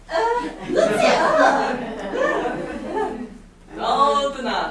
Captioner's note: speaking grammelot